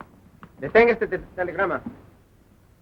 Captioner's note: Spanish